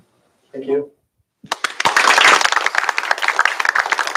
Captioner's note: applause